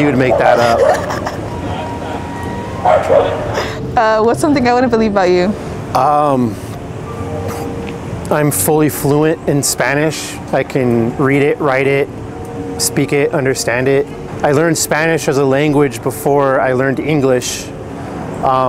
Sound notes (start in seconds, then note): 0.6 laughs; 2.8 dog barks